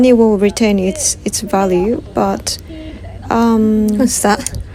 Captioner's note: laugh